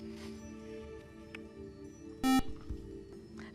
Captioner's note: buzzer